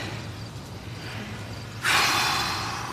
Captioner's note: sighs